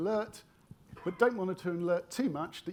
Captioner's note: attendee coughing